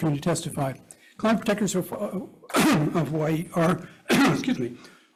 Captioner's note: coughs